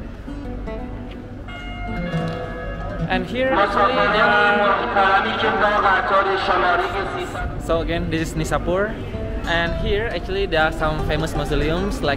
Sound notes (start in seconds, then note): 4.9 loud announcement